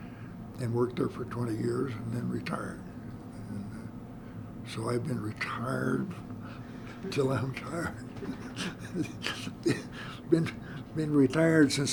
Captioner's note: laughter